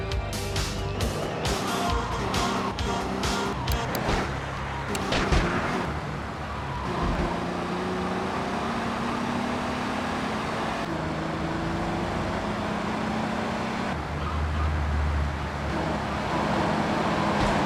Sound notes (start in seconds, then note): 1.4 explosion